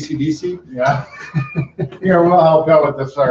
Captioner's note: laughs